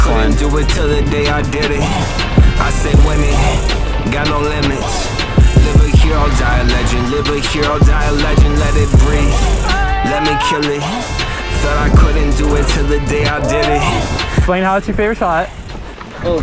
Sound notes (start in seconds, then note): 10.1 yelling